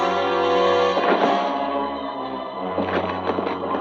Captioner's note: body thudding